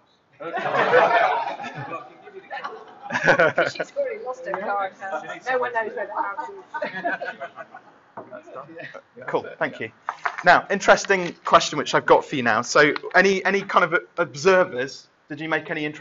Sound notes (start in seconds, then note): 0.3 laughter; 4.7 chattering